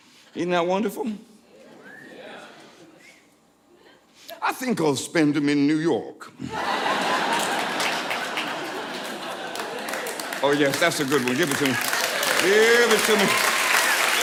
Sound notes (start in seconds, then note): 6.4 audience laughing and cheering